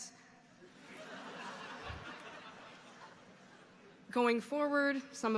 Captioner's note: audience laughing